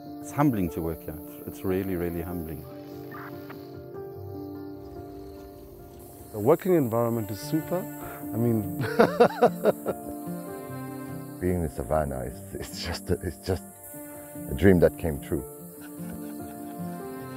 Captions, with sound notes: It's humbling to work here, it's really, really humbling The working environment is super I mean [laughing] Being in the savannah is just, it's just a dream that came true